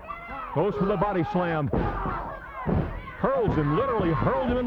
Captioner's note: body thudding